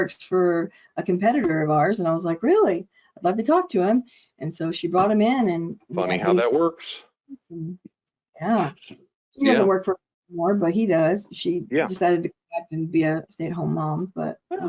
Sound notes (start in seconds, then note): 11.4 audio distortion